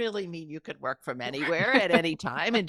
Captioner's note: chuckling